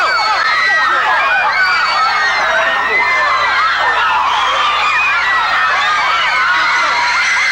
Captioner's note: screaming